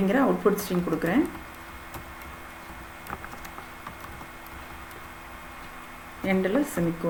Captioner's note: typing